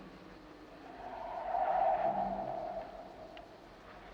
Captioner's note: tires screeching; wind blowing